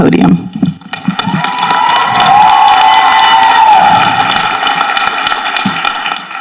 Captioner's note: people applauding and cheering